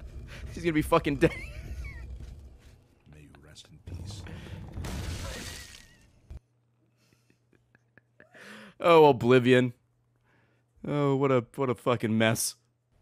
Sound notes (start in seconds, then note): 4.0 laughs